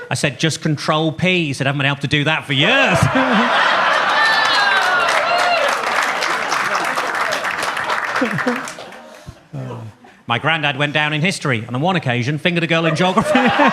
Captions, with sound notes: I said, "Just Control + P." He said, "I haven't been able to do that for years." (audience laughs) (audience claps) My Grandad went down in history, on the one occasion, fingered a girl in geography.